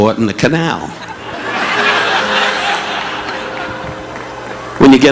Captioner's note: audience laughing